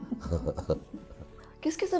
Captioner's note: giggles